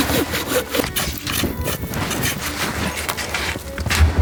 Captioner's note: saw scratching